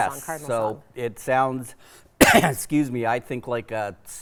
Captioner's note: coughs